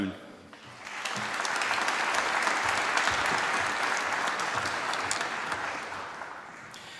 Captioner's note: applause